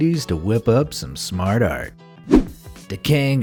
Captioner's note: air whooshing